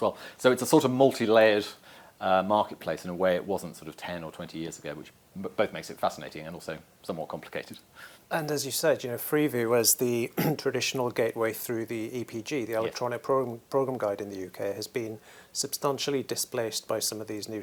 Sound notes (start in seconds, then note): 10.3 cough